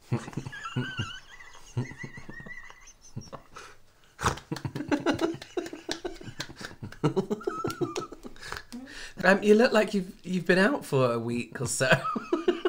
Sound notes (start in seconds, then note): 0.1 wheezing Laughter; 4.2 really Unenthusiastic Clapping